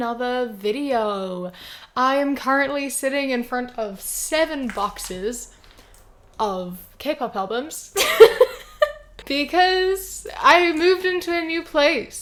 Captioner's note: laughs